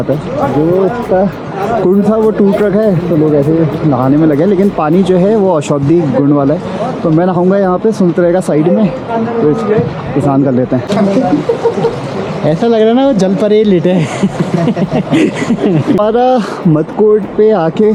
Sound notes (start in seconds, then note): 14.1 laughs